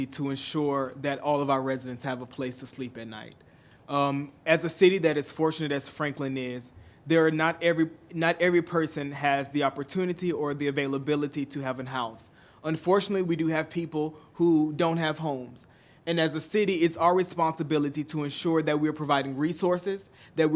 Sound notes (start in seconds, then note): none